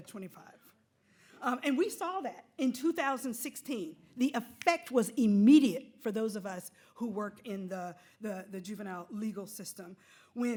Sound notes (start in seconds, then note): none